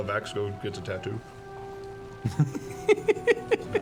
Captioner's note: laughs